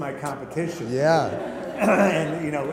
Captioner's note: laughter